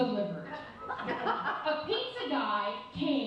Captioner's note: audience laughs